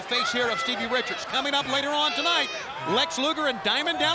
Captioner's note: breathing deeply